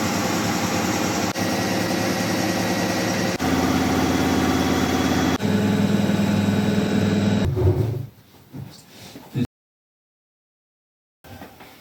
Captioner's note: washing machine